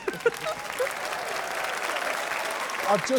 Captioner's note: both chuckle mischievously; applause